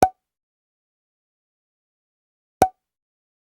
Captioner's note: popping